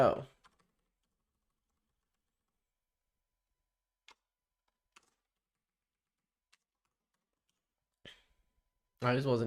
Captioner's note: silence